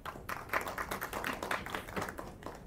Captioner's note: applause